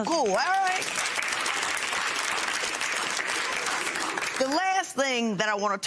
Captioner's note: applause